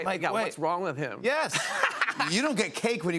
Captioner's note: laughter